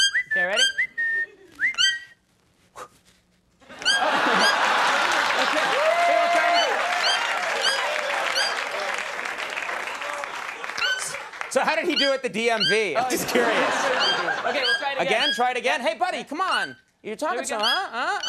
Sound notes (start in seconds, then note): 0.0 Conan O'Brien whistling; 3.6 audience laughing